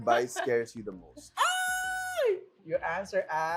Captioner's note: squeals